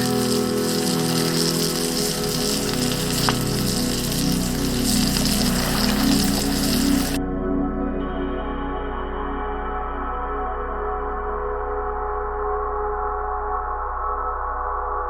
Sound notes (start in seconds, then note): 0.0 food sizzling; 0.3 light music continues; 5.8 water trickling